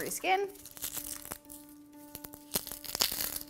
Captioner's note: crinkling